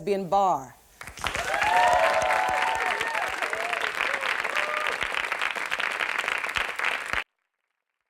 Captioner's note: applause